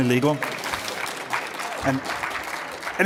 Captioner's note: applause